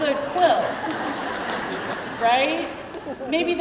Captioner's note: crowd laughing